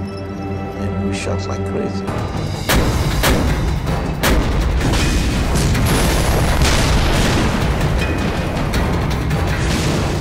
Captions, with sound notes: And we shot like crazy. (explosions booming) (dramatic music)